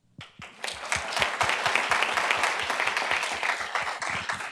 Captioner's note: group applauds